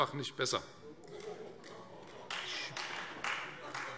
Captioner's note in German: Beifall Freie Demokraten